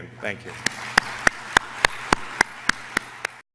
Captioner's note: applause